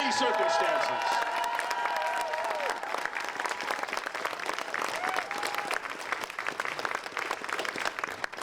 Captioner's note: applause